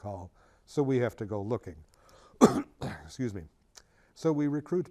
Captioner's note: coughs